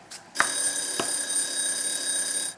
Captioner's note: timer rings